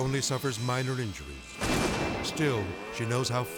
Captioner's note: explosion booms